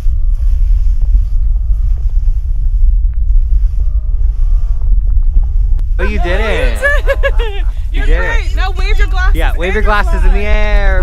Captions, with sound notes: - We did it! - We did it! [laughter] You are great. Now wave your glasses in the air! - Yeah, wave your glasses in the air!